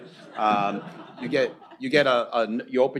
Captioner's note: laughter